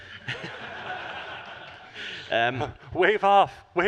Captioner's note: crowd laughs